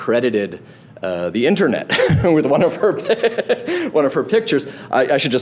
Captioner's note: laughing